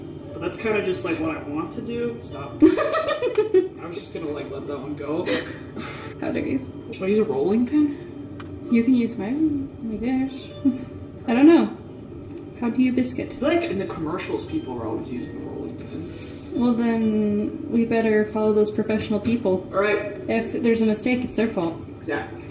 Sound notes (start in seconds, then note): 2.6 laughs